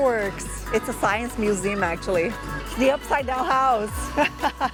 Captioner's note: laughs